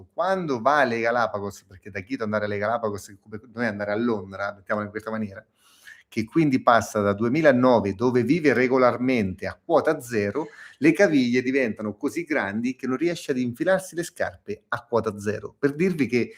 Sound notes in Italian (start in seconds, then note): 6.1 sbuffare